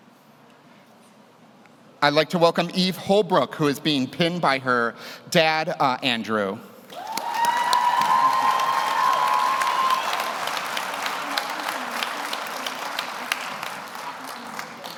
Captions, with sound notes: I'd like to welcome Eve Holbrook, who is being pinned by her dad, Andrew. (audience cheers) (audience applauds)